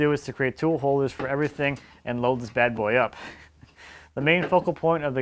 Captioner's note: laughs